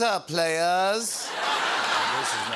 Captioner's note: laughter